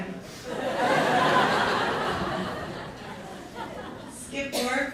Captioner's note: more laughter